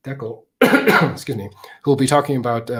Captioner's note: coughs